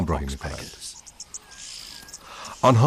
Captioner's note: chirping